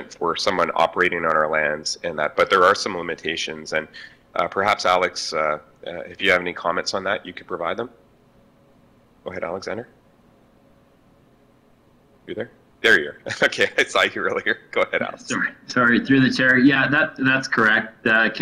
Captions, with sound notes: for someone operating on our lands. But there are some limitations and perhaps Alex, if you have any comments on that you could provide them. Go ahead, Alexander. You there? There you're. Okay, I saw you earlier. Go ahead, Alex. (laughs) - Sorry. Through the Chair, yeah that's correct.